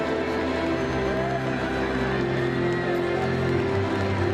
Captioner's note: crowd cheering